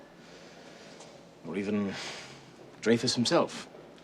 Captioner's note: sighs